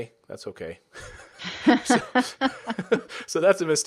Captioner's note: laughter